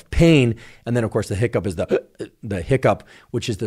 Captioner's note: hiccups